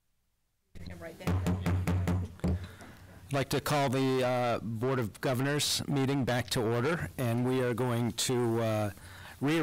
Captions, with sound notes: [GAVEL] I would like to call the Board of Governors meeting back to order and we are going to